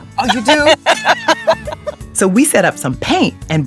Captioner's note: both laughing